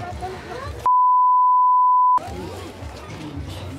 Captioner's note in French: bip